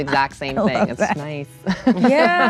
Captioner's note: laughs